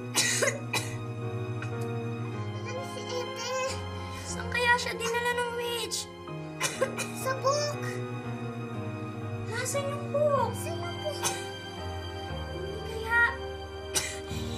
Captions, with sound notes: [Hansel coughs] Where's Ethel? Where did the witch take her? -[Hansel coughs] -In the book. -Where's the book? -Where's the book? Could it be... [coughs]